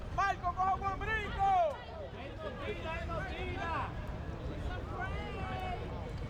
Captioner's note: players yelling in foreign language